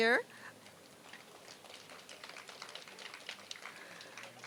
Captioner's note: applause